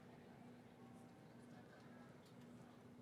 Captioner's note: none